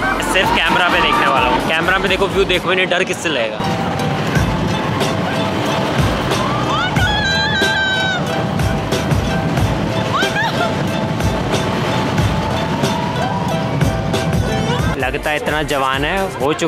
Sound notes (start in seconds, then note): 6.6 meanwhile more screaming